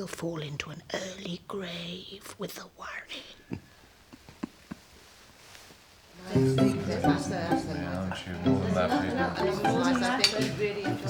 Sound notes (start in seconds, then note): 4.1 chuckling; 6.3 chatter